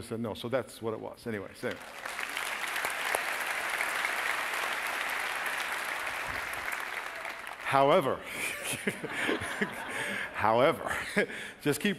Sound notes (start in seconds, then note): 4.8 applause; 8.3 laughing